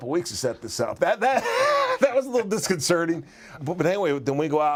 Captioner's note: laugh